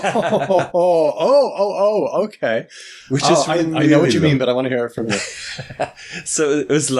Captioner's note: laughs